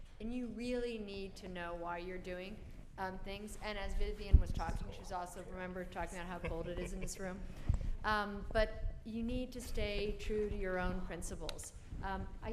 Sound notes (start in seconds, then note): 6.3 chuckles